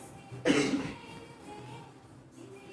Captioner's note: cough